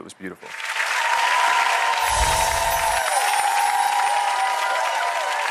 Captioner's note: audience applauds and cheers